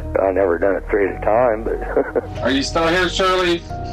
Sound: laughing

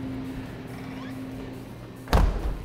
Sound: door squeaks; door slams

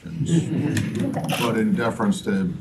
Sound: laughter

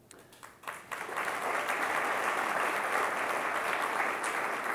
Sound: audience clapping

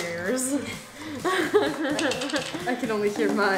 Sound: laughs

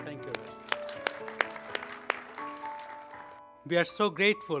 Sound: audience applauding

